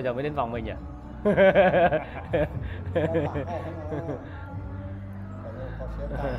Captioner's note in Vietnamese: Tiếng cười